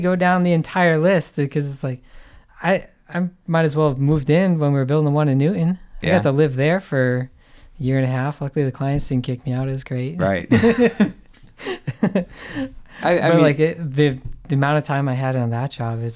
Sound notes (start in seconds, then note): 11.5 men laughing